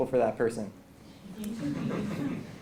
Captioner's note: laugh